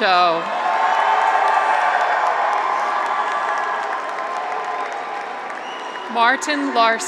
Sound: graduates cheer; audience applauds

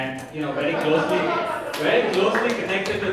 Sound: audience laughing

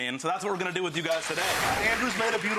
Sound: applause

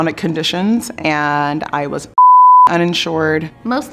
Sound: beep

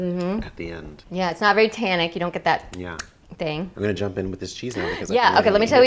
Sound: smack

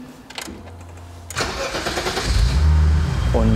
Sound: engine starts

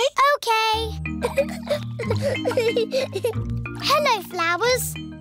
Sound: giggling

